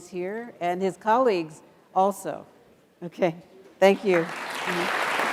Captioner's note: applause